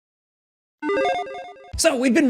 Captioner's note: logo beeps